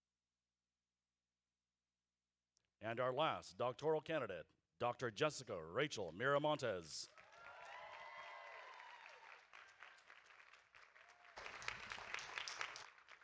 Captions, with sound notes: And our last doctoral candidate, Dr. Jessica Rachel Miramontez. (audience applauding)